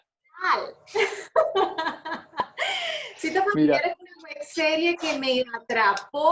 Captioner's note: laughter